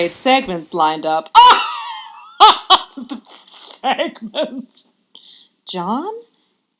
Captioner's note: laughs